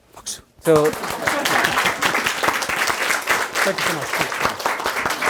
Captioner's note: everyone clapping